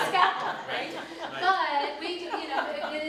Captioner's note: audience laughs